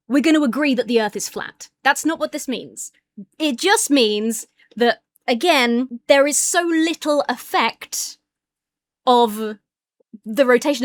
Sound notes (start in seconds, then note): none